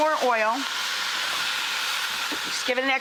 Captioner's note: pot sizzles